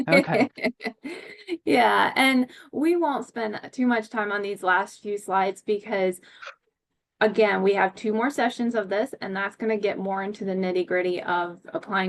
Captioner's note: laughs and then begins speaking